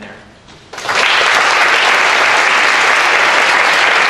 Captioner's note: audience applauds